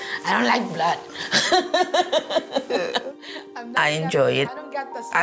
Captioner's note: laughs